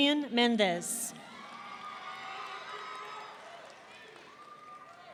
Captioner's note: audience cheering